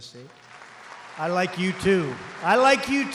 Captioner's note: applause